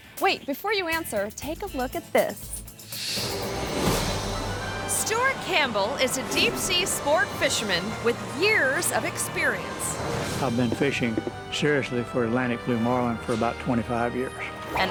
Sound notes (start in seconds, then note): 2.9 dramatic instrumental music; 2.9 screen swooshes